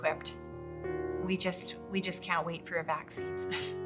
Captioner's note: laughs